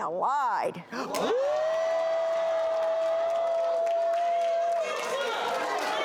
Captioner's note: audience claps